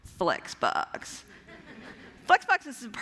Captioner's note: laughter